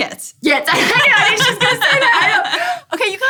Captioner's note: laughter